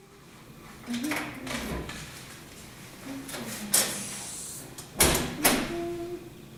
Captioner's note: Francis hums in the background. The door bangs open, then closed